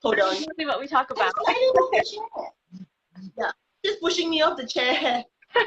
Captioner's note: chatter